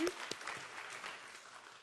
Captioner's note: applause